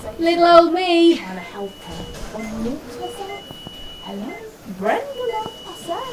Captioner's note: chattering continues